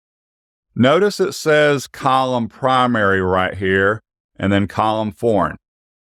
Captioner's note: foreign